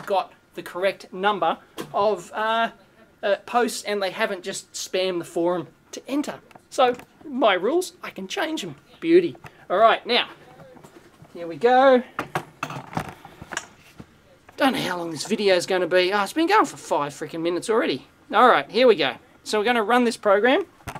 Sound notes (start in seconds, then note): 12.4 equipment shuffling